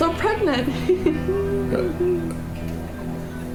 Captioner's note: giggles